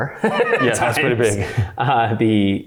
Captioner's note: chuckles; laughs